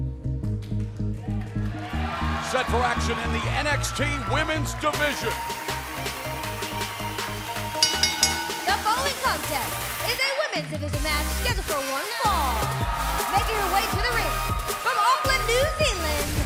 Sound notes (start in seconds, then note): 7.7 bell ringing